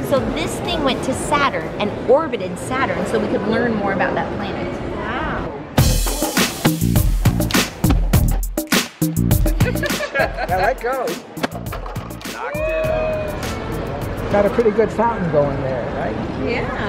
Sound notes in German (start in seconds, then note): 9.5 Lachen